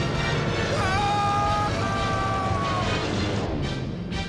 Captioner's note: screams